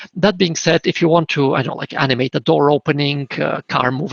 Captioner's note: none